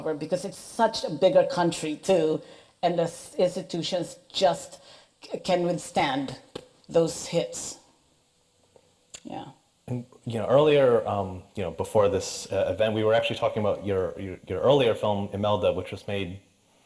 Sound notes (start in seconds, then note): none